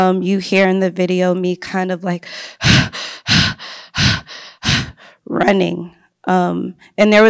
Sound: panting

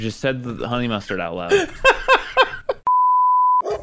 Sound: laughs

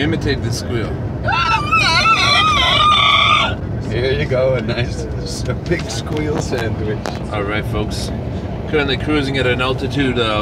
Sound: SQUEALING*, here you go, a nice pig squeal sandwich

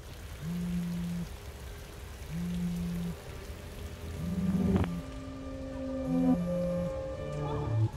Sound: phone vibrates

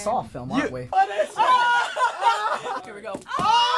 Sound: laughter

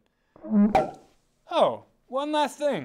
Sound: popping sound

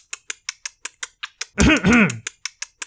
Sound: coughs

